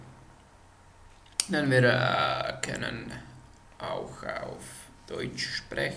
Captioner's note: German